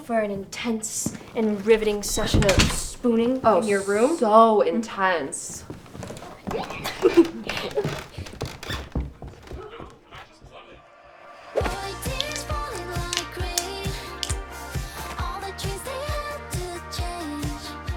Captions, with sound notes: - For an intense and riveting session of spooning in your room. - Oh, so intense. (giggling) [upbeat pop music]